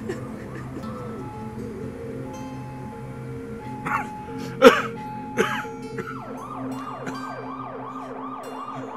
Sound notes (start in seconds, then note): 1.0 ambulance siren; 3.8 coughing and sputtering